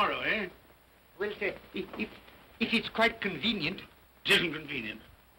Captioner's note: stammering